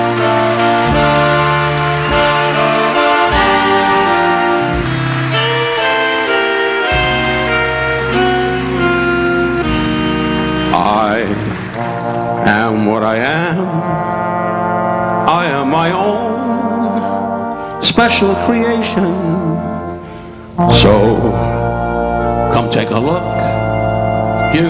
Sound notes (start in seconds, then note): 0.2 audience applauding; 0.2 audience cheering; 3.5 audience whistling